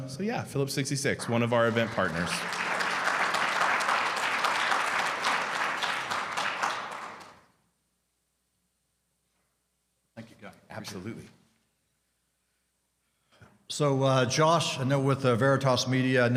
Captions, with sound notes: So, yeah, Phillips 66, one of our event partners. (audience clapping) - Thank you, Guy. - Absolutely. - So, Josh, I know with Veritas Media,